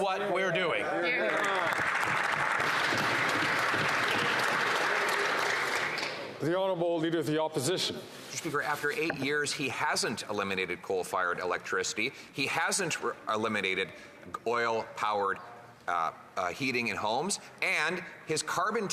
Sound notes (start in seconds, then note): 7.1 applause